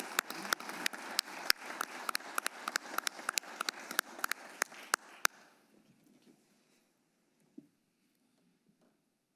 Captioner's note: applause